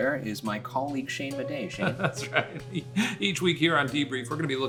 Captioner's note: laughing